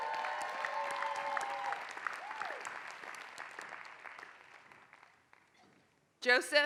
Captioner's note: applause